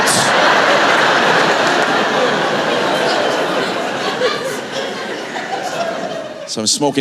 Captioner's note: laughter